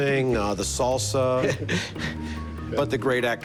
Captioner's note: laughs